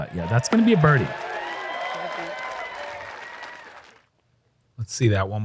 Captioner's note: applause